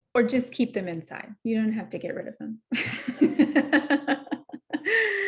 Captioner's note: laughing